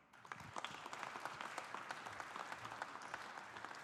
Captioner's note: audience applauding